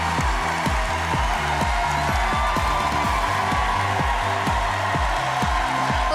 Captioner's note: cheers and applause